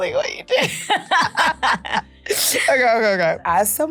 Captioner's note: laughing